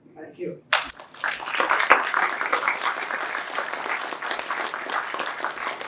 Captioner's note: applause